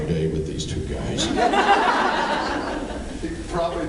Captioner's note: laughs